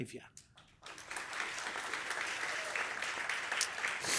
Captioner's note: applause